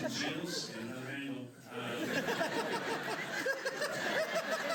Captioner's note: laughter